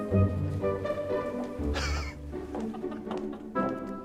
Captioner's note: laughs